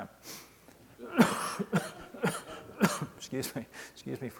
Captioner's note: coughing